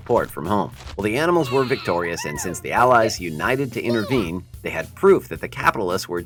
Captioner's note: animals celebrating at the farm